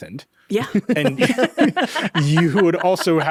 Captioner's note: chuckles